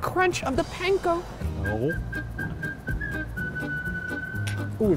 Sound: whistling

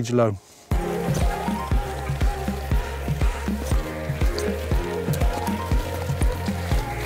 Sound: bike wheels zipping; upbeat music

